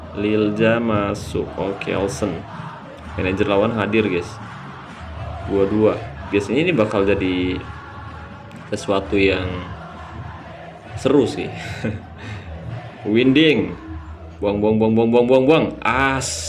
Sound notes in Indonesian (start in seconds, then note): 0.0 berteriak; 11.4 tertawa